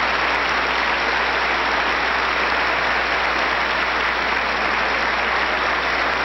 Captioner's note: applause